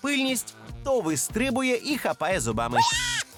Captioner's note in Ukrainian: крик